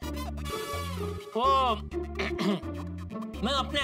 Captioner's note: clears throat